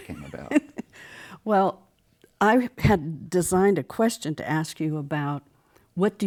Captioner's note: laughs